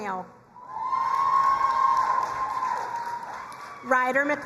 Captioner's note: crowd cheering and applauding